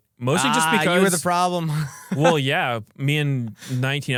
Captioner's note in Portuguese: risos